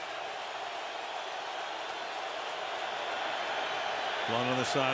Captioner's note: crowd cheering